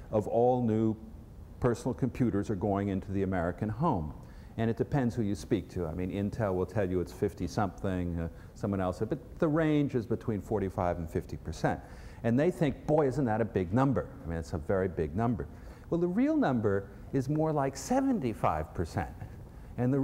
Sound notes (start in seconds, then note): none